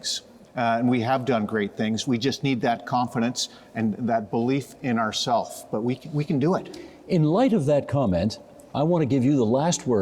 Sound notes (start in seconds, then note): none